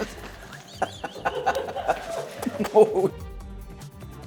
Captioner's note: laughing; upbeat music